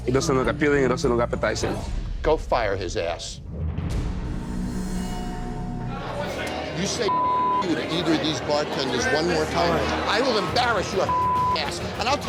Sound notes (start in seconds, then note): 3.8 intense music; 7.0 beep; 11.0 beep